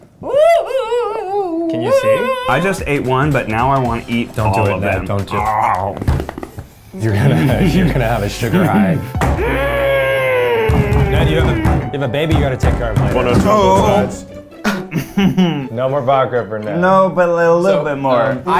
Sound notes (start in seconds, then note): 5.2 growls; 5.9 chews; 8.5 giggling; 9.2 slams the table; 14.6 laughing